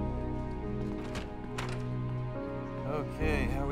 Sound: door opens

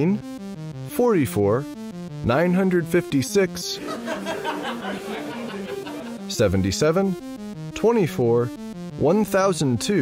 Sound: laughter

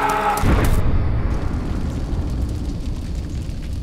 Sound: house blasts

